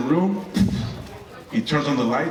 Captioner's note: slamming door sound